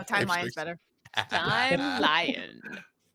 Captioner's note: laughing